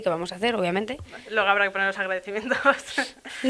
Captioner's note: laughs